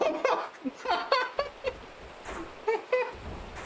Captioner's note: wheezing